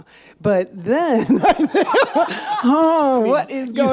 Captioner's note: laughs